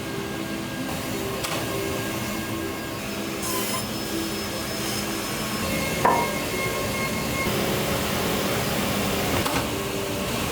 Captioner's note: wood cutting